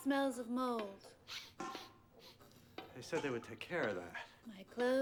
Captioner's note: sniffs